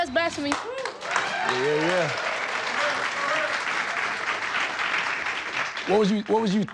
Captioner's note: audience applauding